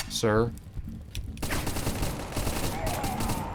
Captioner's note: gunfire